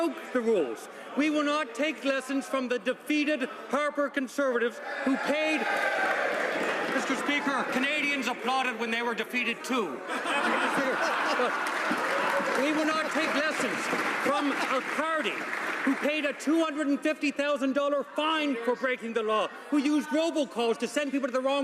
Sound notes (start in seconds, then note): 14.6 some applause